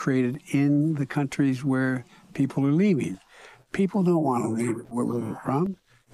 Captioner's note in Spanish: habla en ingés